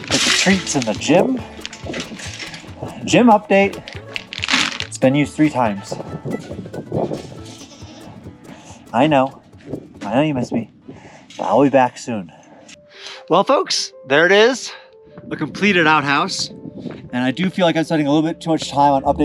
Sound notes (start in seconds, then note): 0.0 gate opens; 7.0 goat bleats